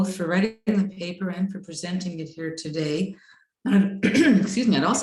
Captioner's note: clears throat